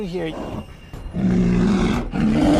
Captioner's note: growling